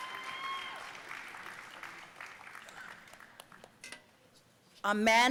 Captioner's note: audience cheering and applauding